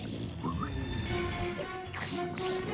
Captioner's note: snarls